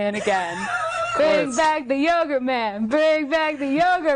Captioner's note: laughing